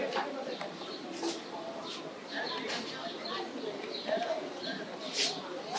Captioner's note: indistinct chatter